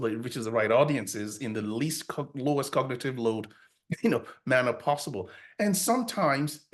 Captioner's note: chuckles